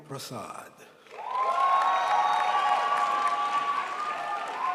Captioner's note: crowd applauds